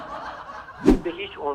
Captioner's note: laughter